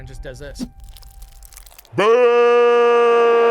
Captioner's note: liquid pouring